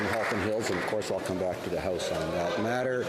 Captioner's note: applause